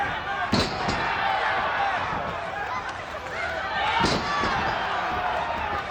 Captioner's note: audience cheers